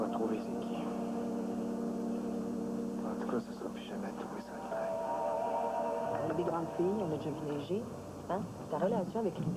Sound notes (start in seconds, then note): 2.4 chuchotant